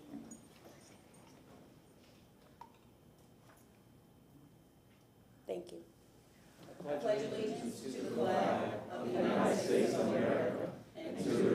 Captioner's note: moment of silence